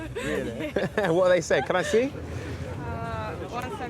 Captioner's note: laughing